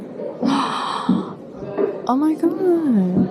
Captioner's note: gasps